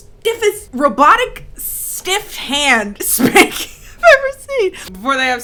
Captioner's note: laughing